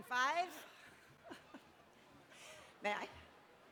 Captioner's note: laughter